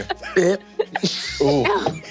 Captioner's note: mimics vomiting